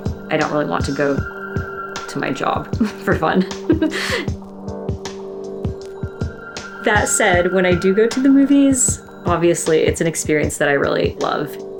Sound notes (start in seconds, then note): 2.8 laughs